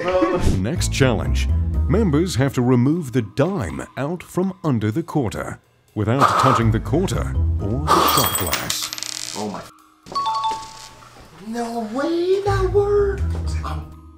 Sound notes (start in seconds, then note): 8.0 coin clatters; 10.1 chimes